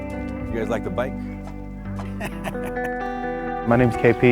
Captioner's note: laughing